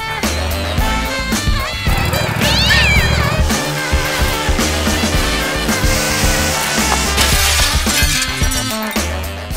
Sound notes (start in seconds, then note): 2.3 cat screeches; 5.8 glass shatters